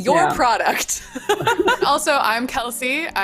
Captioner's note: laughs